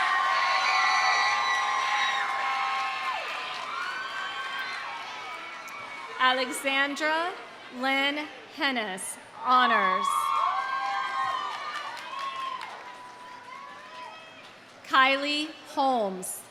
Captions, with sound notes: (audience cheering) (audience applauding) Alexsandra Lynne Henes, honors. (audience cheering) (audience applauding) Kylie Holmes.